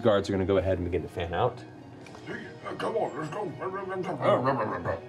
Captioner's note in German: raue Stimme